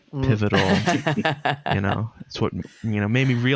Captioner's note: laughter